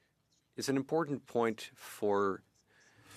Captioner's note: speaking French